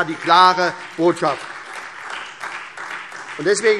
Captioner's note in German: Beifall SPD